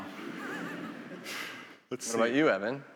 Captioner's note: attendees laughing